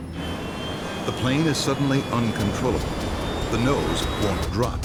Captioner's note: voiceover